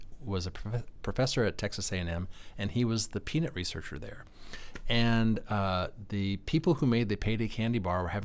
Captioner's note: none